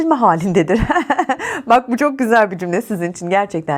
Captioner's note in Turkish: kahkaha